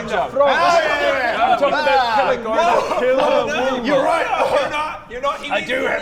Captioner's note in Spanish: Gritos agresivos a Bodger; Coff